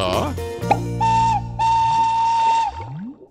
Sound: whistle blowing

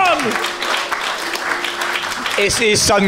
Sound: applause

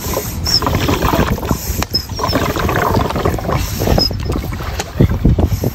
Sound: bubbles; pump squeaking

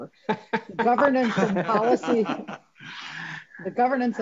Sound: Regents laughing

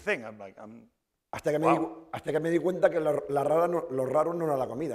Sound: speaking spanish

